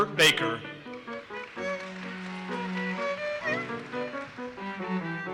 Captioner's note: audience applauses